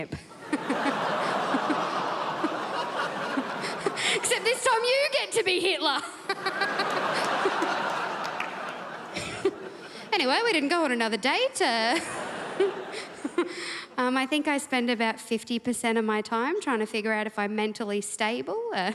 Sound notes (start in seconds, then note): 0.2 crowd laughs; 11.9 crowd laughs